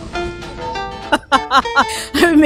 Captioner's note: laughs